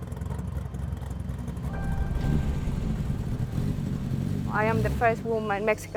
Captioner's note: car engine starts